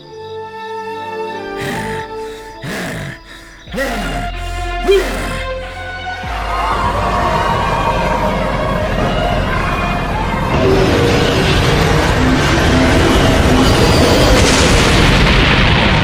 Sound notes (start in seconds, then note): 1.5 growling; 6.2 screaming, Wailing